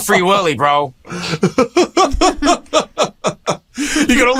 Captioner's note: laughter